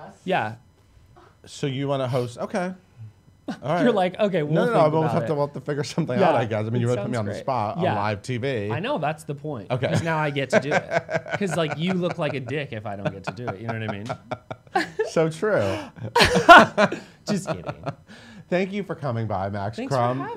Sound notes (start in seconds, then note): 15.5 laughs